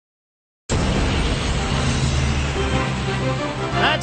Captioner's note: plane engine roaring